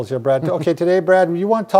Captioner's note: chuckles